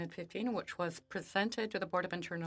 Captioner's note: speaking French